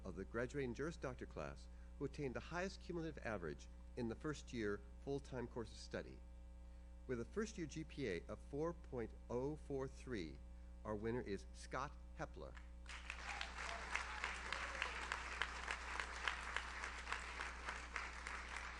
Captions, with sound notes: of the graduating Juris Doctor class who obtained the highest cumulative average in the first year full-time course of study. With a first year GPA of 4.043, our winner is Scott Hepler. (audience cheers) (audience applauds)